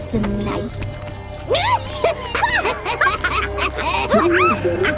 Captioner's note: cackling